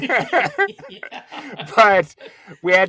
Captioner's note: laughing